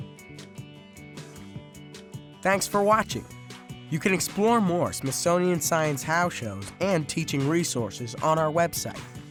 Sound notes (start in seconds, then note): 0.0 guitar music; 2.6 voiceover; 9.1 guitar music